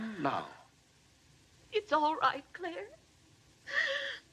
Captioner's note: sobs